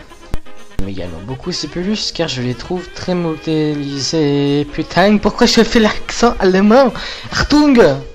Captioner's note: german accent